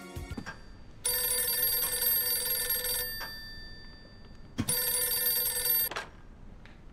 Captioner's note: phone ringing